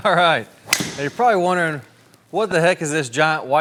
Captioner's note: laughing; club smacking